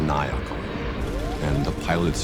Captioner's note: siren alerts